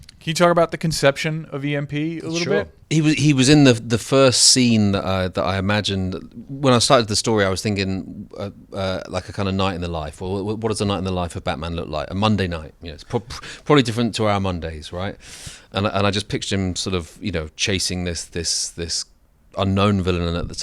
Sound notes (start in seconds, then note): 12.6 laughs